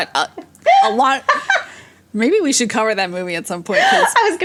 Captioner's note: both laugh